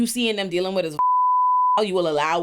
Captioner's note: beep